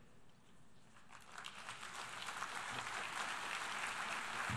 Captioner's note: applause